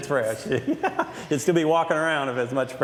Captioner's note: laughs